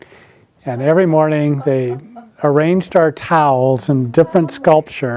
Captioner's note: attendees laughing